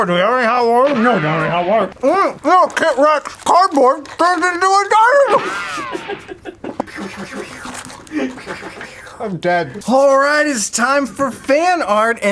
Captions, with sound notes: do we have any hot water? [RICOCHET] --no, we don't have any hot water. Oh, KitRex cardboard turns into a dino-- [RICOCHET] [LAUGHTER] Pew-pew-pew. Pew-pew-pew. I'm dead. All right, it's time for fan art,